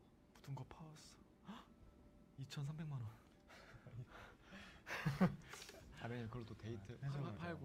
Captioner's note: laughs